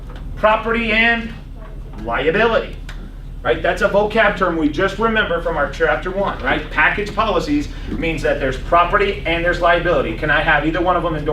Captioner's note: laughs